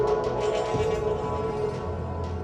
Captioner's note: metal crowbar dragging